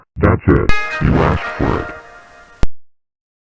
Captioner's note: Really Evils Windows XP Shutdown